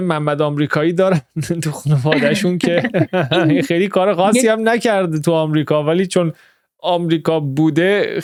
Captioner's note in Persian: خنده